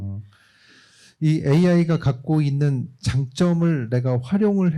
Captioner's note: speaking korean